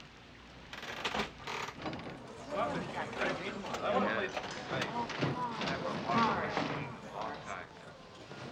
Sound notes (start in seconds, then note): 1.2 machines clicking; 2.2 people chattering